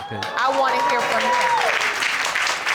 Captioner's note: audience cheering and applauding